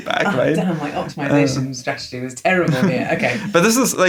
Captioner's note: laughs